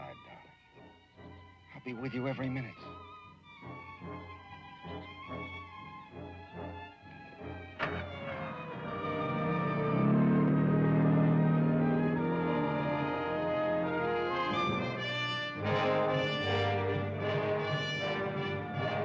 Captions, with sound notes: Beside darling, I'll be with you every minute. (dramatic music) (engine revving)